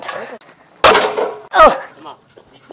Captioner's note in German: krach